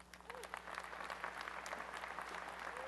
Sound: applause

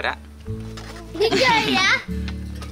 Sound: giggling

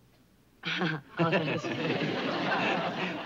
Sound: laughs

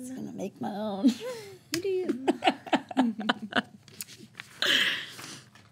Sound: laughs

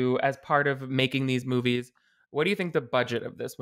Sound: none

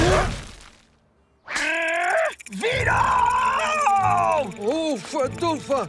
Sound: growling

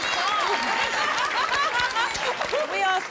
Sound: laughing

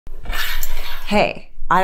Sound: curtain whooshing

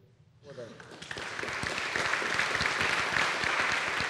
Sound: audience applauds

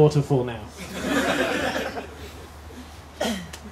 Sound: laughter

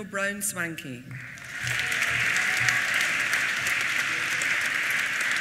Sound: applause

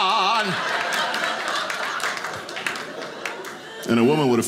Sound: audience laughing

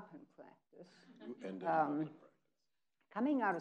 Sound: people laughing

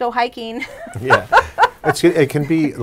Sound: laughs

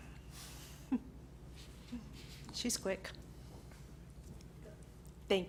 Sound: laughs

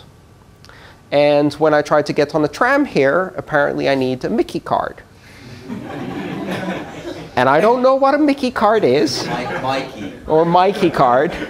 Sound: laughter

